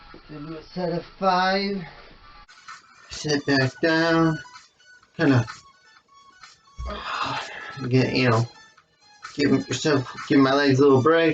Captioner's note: sighs